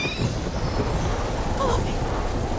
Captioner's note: wind blows